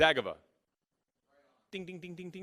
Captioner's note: voiceover